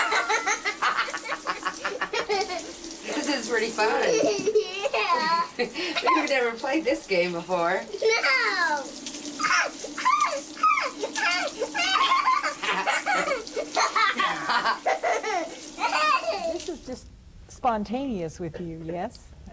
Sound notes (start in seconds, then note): 3.8 laughter; 11.0 laughing